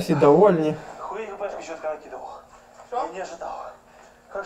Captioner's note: voices